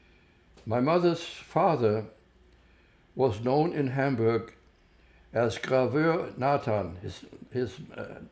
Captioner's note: german